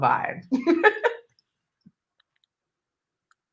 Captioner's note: chuckles